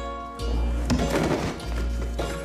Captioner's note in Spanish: Traqueteo